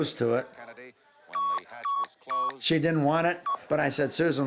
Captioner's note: beeping